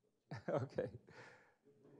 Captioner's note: laughing